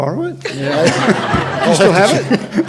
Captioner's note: audience laughs